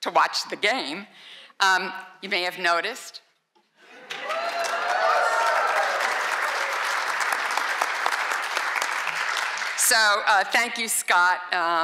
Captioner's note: applause